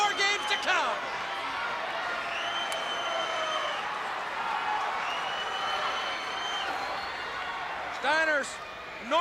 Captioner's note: crowd cheering